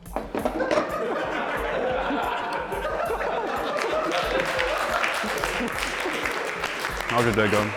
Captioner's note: laughter and applause